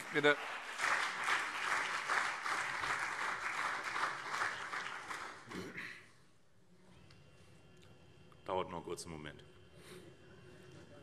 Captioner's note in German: Beifall CDU